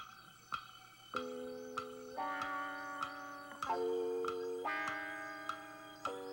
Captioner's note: clock ticking